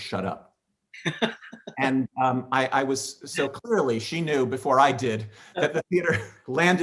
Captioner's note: laughing